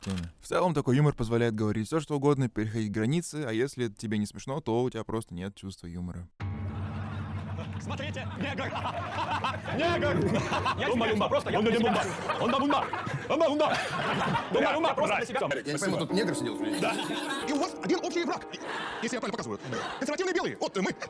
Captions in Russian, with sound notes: теме. В целом, такой юмор позволяет говорить все, что угодно, переходить границы, а если тебе не смешно, то у тебя просто нет чувства юмора. Смотрите, негр. [смех] Негр! [смех] Тумба-юмба. Умба-вумба, Амба-унда. -[смех] -Я не пойму, тут негр сидел что-ли? И у вас один общий враг, если я правильно показываю, консервативные.. белые. Вот мы.